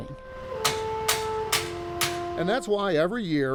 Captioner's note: metal clanging